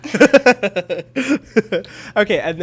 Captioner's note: chuckles